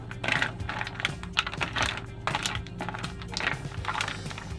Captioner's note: mussels crackling